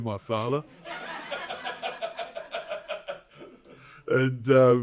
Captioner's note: audience laughing